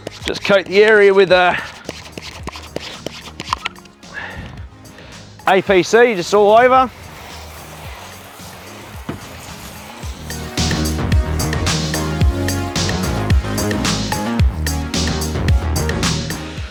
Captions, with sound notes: Just coat the area with APC, just all over. (sprayer hissing) (rhythmic digital music)